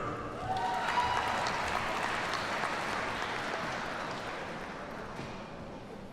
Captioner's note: audience cheers and applauds